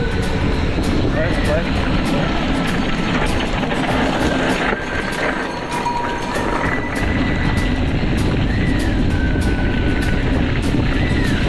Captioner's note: cheering